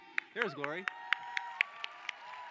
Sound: cheering

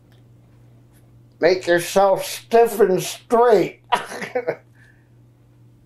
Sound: laughs

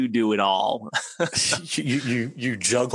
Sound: laughs

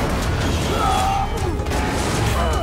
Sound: grunting

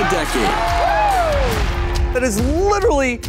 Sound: crowd cheers

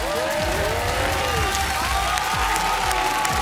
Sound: cheering; dramatic music

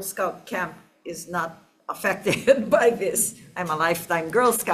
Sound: laughs

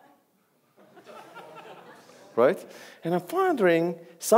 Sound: audience laughs

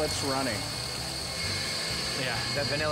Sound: mixer whirring

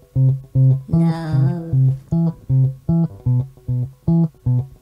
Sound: robo voice

